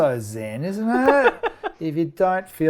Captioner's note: laughs